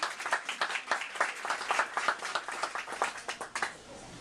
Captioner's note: applause